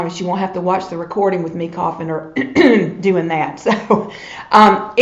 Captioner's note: clears throat